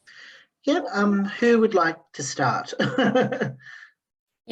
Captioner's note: laughs